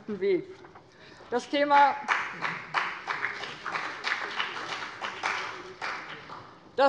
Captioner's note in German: Beifall bei dem BÜNDNIS 90/DIE GRÜNEN und der CDU